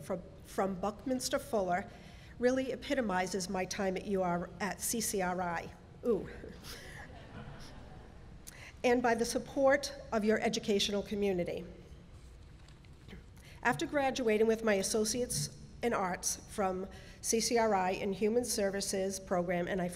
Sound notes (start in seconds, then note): 7.0 audience laughs